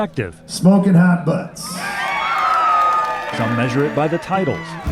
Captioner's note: crowd cheers